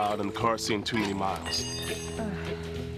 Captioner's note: tire iron clanging; woman sighing